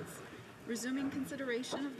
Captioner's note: speaking French